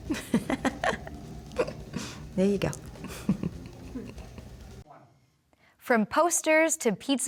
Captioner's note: laughter